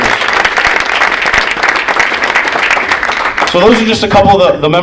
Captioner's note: audience applauding